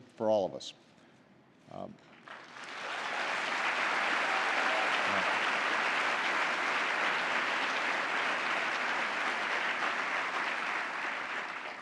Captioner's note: applause